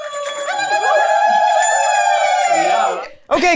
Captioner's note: zappers clacking; zaghareeting; zappers clacking